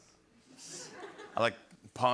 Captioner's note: laughter